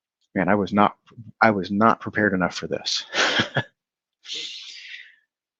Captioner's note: laughs